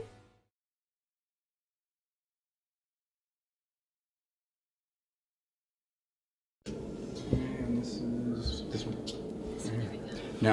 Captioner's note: silence